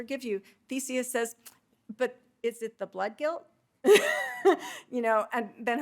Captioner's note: laughing